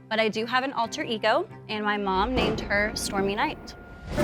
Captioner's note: thunder crashes